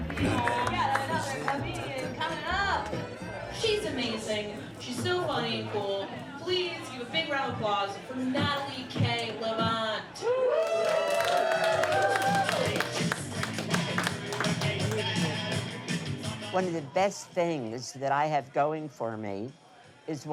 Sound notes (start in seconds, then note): 10.2 crowd cheering